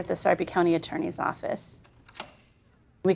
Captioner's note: door opening